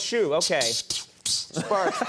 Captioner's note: imitates swishing